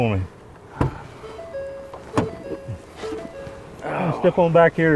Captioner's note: electronic chiming; door handle clicking; driver groaning